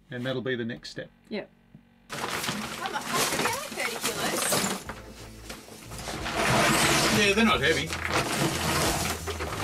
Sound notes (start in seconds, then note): 2.1 package rattles